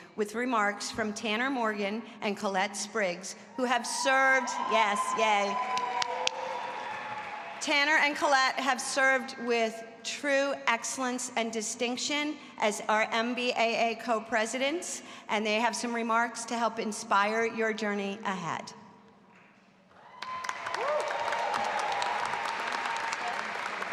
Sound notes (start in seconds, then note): 4.4 audience cheering; 19.9 audience applauding and cheering